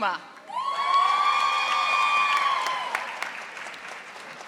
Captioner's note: audience applauding